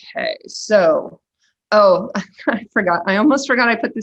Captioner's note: laughing